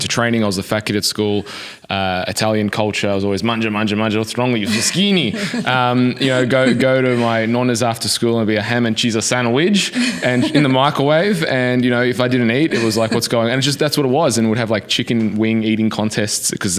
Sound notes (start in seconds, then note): 4.4 speaking in foreign language